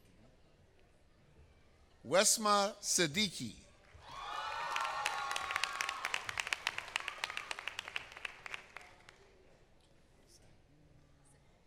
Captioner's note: applause